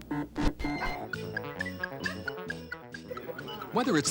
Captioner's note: digital beeping; electronic piano